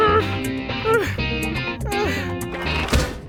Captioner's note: gasping for air; straining